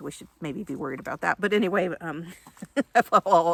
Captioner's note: laughs